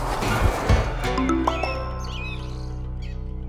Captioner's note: notification